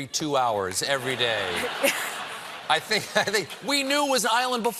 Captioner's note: laughter